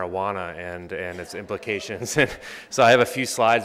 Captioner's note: laughs